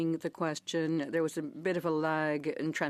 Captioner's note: speaking French